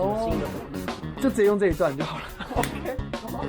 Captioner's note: clap